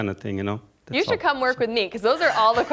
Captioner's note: audience laughing